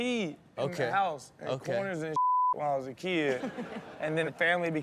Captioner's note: beep; Chanel chuckles; audience laughs